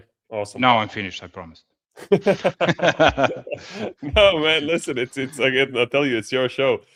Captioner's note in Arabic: ضحك